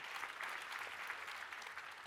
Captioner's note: applause